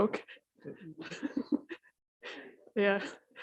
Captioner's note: deputy Mayor laughs